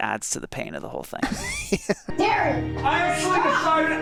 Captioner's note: laughs